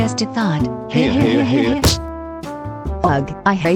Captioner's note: laughing